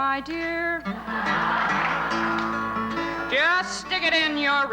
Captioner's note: laughter